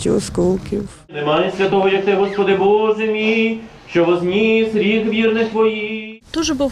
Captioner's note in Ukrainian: звучить молитва за померлих